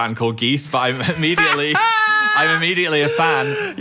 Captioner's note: cackling